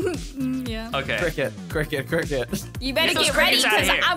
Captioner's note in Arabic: ضحكات خافتة